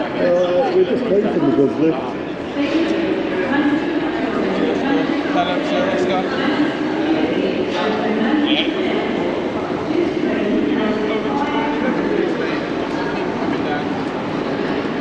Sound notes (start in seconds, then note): 3.5 station announcement in Background; 5.5 staff on radio